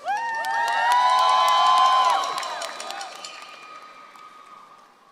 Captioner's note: audience cheers and applauds